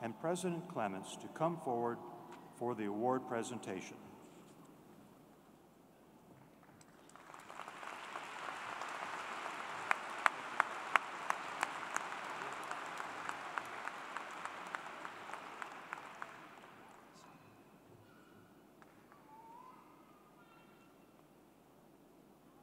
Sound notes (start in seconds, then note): 10.5 applause